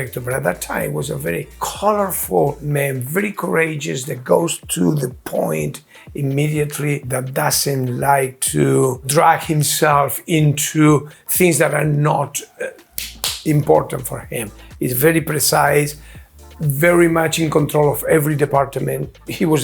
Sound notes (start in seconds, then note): 12.9 hand smacks